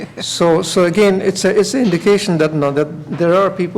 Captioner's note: laughter